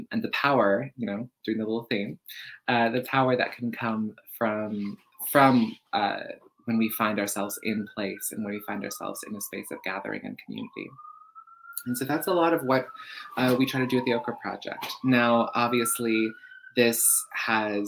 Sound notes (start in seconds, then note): none